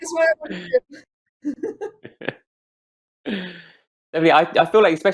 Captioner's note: all laughing